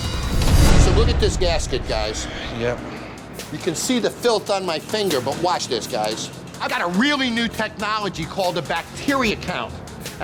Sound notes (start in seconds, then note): 0.2 scene whooshing; 2.7 sighing